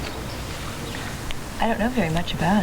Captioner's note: birds chirping